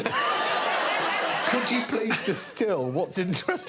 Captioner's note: audience laughing